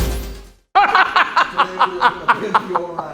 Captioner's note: laughing